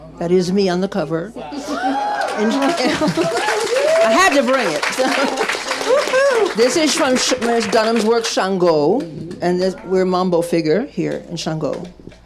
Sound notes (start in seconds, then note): 1.6 audience applauding; 5.9 person cheering